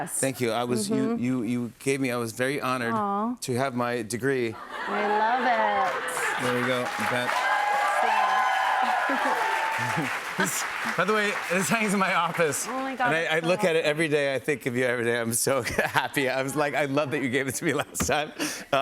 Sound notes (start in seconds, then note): 7.4 cheers and applause